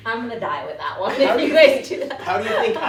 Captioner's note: laughing